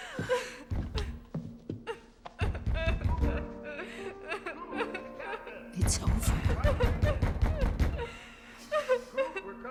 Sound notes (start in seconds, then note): 0.9 pounding on door; 2.4 Paige sobbing; 7.8 pounding continues